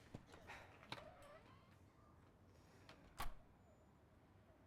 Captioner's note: door opens, closes